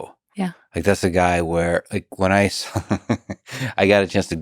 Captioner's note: laughs